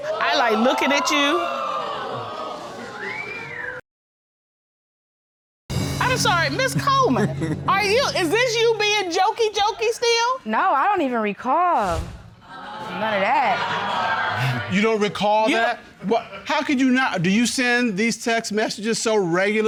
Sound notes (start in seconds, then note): 7.0 chuckles; 13.8 audience groans